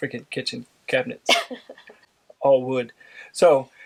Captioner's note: laughing